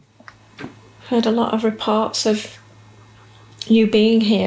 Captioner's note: none